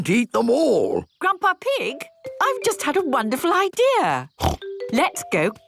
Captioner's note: snort